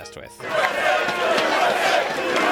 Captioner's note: crowd